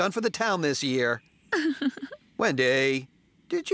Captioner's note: giggles